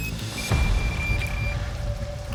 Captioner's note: rapid beeping